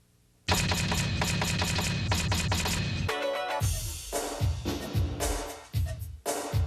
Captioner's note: upbeat music; typewriter clacking